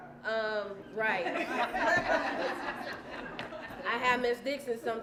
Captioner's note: laughter